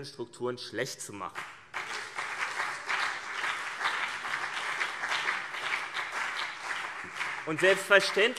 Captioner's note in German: Beifall CDU und BÜNDNIS 90/DIE GRÜNEN